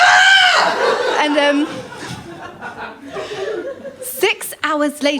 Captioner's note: laughter